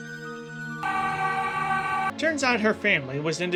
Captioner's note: screams